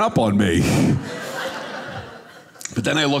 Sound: audience laughing

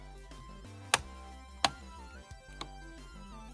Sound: light switches flicking; light electronic music

